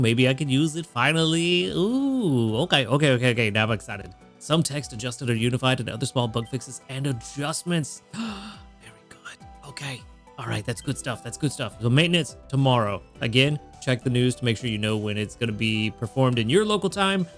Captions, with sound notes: Maybe I can use it finally. Ooh, okay, okay, okay, okay. Now I'm excited. Some text adjusted or unified to the other small bug fixes and adjustments. (gasps) Very good. Okay, all right, that's good stuff. That's good stuff. So maintenance tomorrow. Again, check the news to make sure you know when it's gonna be performed in your local time,